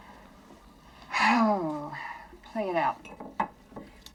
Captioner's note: sighs